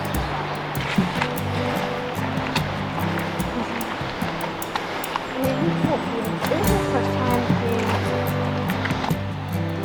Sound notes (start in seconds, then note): 0.0 gentle music; 0.0 footsteps rustling